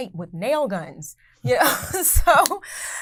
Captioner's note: laughing